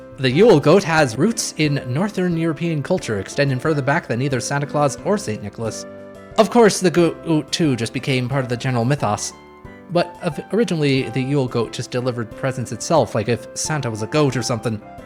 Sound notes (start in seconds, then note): none